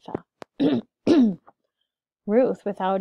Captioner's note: clears throat